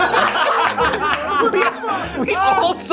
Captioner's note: all laugh